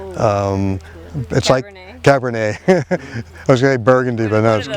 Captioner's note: laughing